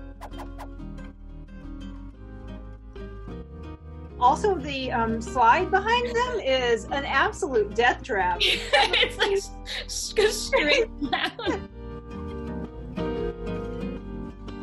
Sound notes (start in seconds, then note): 8.4 woman laughing; 12.3 upbeat music